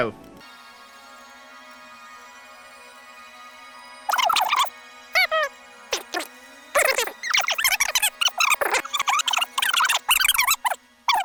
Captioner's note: sped up squeaking